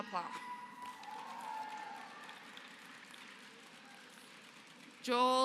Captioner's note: applause